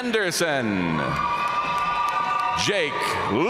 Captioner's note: audience cheering and applauding